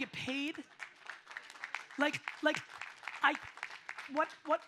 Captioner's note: audience applauds